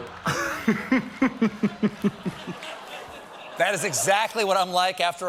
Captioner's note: laughter